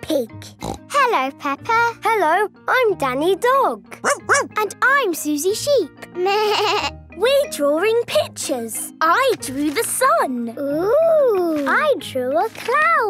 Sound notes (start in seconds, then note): 4.0 barking; 5.8 bleating